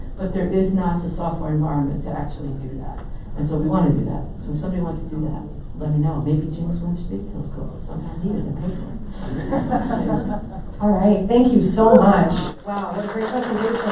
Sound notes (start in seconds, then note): 9.2 laughing